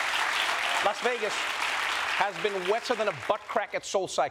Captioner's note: applause